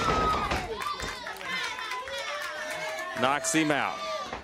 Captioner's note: crowd cheering